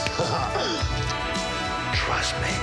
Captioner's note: laughs